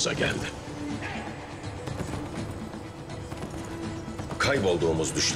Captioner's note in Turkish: Nal sesleri